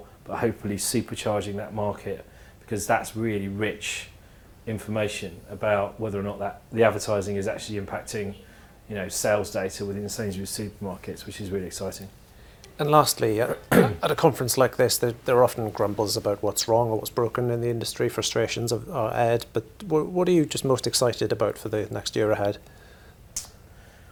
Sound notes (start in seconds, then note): 13.4 cough